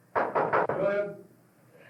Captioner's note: knocking